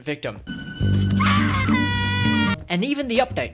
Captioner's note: crying